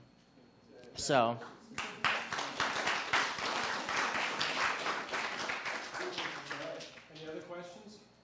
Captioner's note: applause